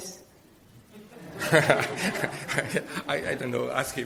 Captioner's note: audience laughing